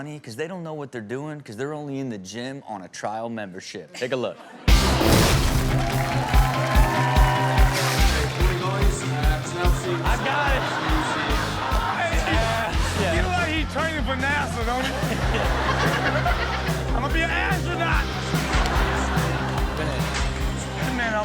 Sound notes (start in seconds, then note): 4.9 audience cheers; 4.9 peppy music; 11.1 audience laughs; 14.6 chuckling; 14.6 all laugh